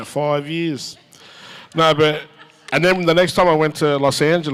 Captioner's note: audience chuckles